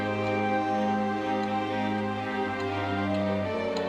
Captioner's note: ticking